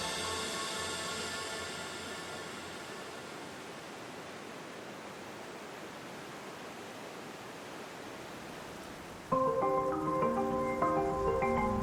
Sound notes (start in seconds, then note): 0.0 water flowing; 9.3 soft upbeat music